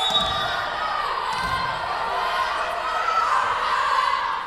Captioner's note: whistle blowing